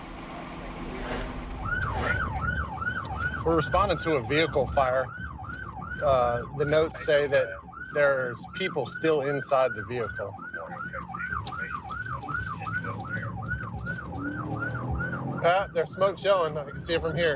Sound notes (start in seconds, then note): 11.7 sirens blaring